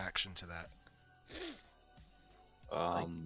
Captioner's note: sniff